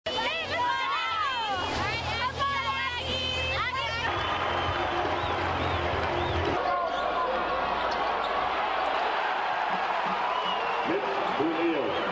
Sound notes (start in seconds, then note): 0.0 chanting